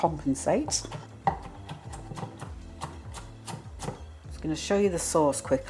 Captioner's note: chop chop chop